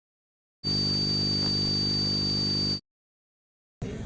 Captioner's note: high-pitched buzzing